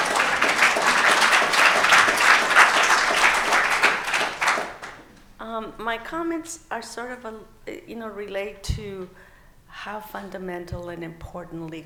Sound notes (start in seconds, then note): 1.8 laughing; 5.5 applause